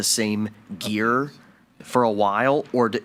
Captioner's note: speaking faintly